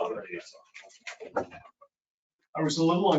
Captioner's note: speaking faintly